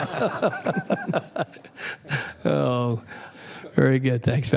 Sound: laughter

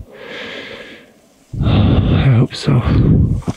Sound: exhales

